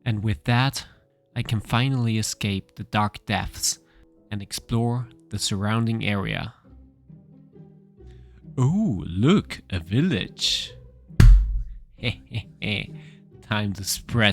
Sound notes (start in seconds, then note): 12.0 laughing